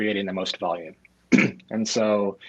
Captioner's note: clearing throat